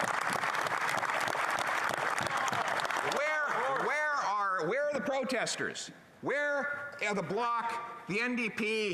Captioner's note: applause